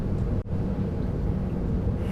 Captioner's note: sighs